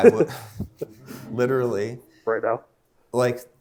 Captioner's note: laughs; laugh